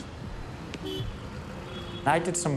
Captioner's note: car horns honking